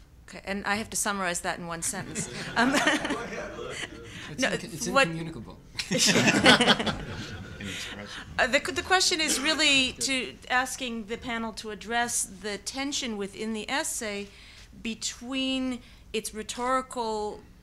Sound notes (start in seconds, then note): 1.9 audience laughing; 5.8 audience laughing